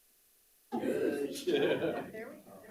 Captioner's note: members laughing